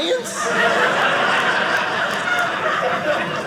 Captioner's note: audience laughing